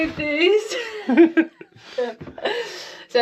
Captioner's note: laughing